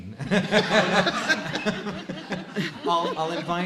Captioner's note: laughing